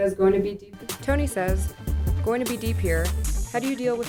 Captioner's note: voiceover